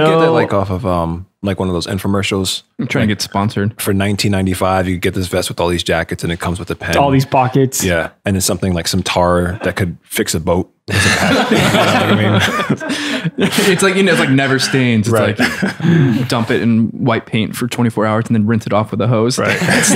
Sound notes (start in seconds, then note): 10.9 laughter; 19.4 laughter